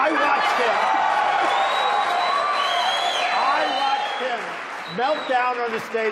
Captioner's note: loud applause & cheering